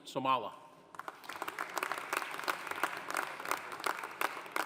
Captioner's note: audience applauding